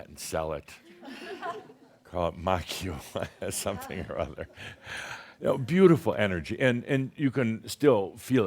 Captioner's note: Adamus chuckles